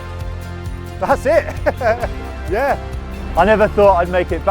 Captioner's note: laughs